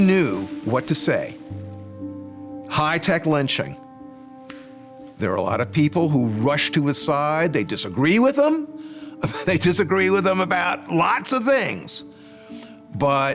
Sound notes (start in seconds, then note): 4.4 snaps; 9.2 laughing